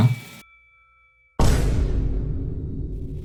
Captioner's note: fx_rock.mp3